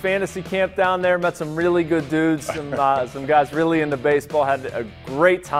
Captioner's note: laughter